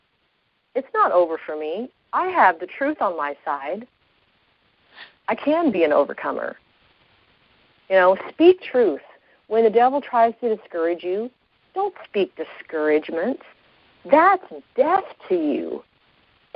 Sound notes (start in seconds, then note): none